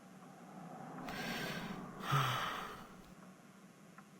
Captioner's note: sighing